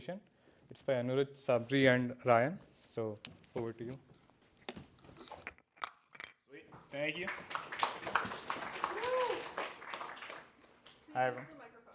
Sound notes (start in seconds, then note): 7.0 applause